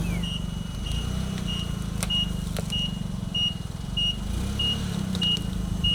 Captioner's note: fork truck motor humming; fork truck beeping; protection mats crunching